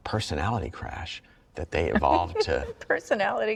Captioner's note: laughs